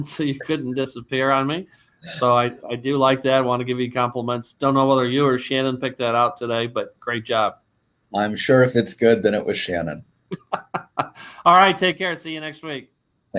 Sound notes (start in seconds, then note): 10.3 laughs